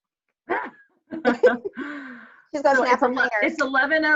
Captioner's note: laugh